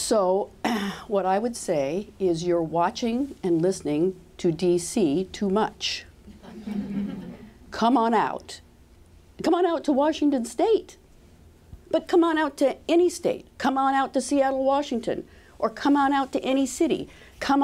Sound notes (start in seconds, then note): 6.3 laughter